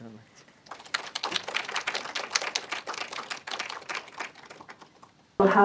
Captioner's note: group applauds